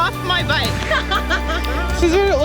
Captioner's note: laughs